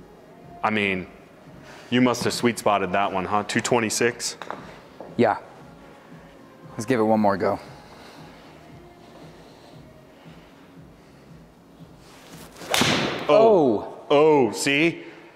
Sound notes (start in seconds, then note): 12.4 ball thuds